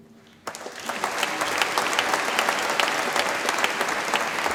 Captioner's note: audience applauds